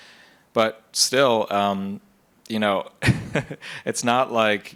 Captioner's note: laughs